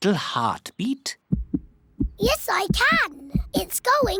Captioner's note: heart thumps